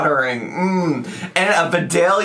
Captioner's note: humming